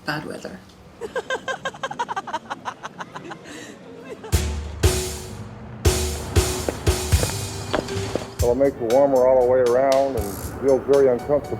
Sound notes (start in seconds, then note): 1.0 women laughing; 6.1 foot steps